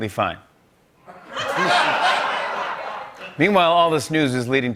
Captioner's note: laughter